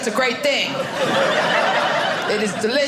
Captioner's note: audience laughing